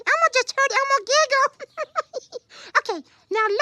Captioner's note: giggles